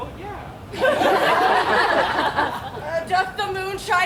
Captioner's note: audience laughs